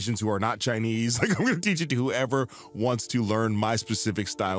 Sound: laughs

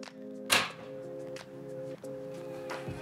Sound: light music; door latch clanking; light music

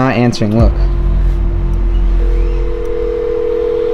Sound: phone dialing

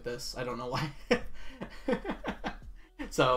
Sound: laughs

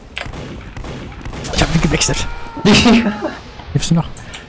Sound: laughing

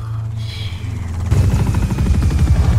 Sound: chopper blades whirring

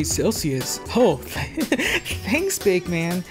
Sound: giggles

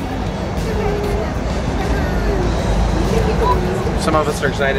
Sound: crying

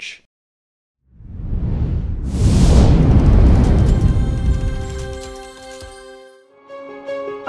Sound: bright music; air whooshing; inspiring music

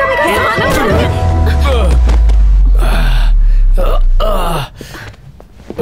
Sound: groaning

